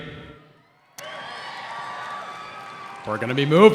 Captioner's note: crowd cheering